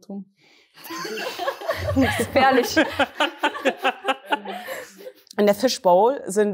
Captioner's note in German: Gelächter